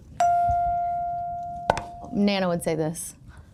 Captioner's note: chime pings